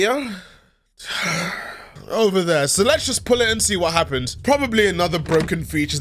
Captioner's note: sigh